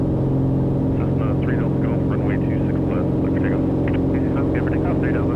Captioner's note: radio chatter